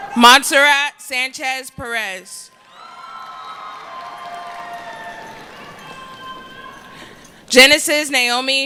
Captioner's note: cheering